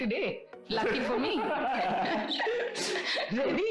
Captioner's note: laughs